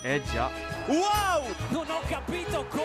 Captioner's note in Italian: Applauso